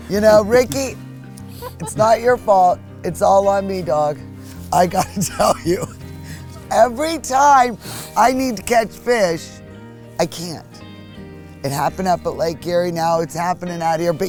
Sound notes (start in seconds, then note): 0.0 laugh; 4.5 laughs